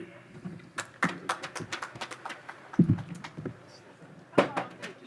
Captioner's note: audience applause